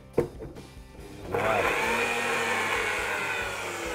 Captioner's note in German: Mixer-Geräusche